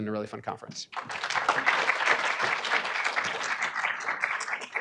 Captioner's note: audience clapping